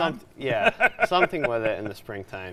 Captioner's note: laughing